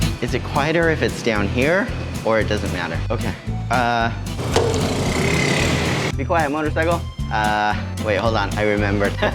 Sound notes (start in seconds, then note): 4.3 motorcycle engine roar